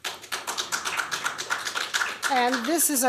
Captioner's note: applause